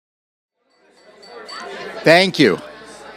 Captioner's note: background chatter